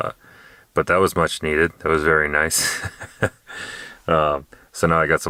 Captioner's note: laughing